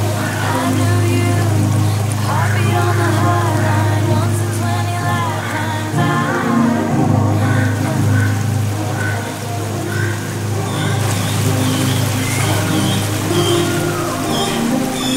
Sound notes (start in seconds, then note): 2.7 squawkity caw; 5.5 caaw; 7.1 distant singing; 8.3 water flowing; 10.6 sqeuaksquak; 10.7 sqeaksqueaksqueak